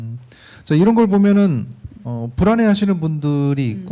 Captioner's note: speaking korean